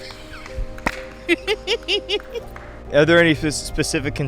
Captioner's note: interviewee laughing and clapping